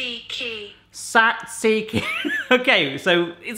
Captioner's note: robotic Voice; laughs